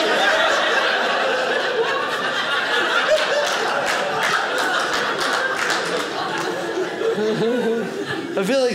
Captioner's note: audience laughing